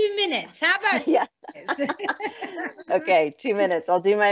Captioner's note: both laughing